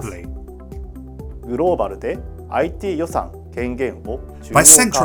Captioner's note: speaks in Japanese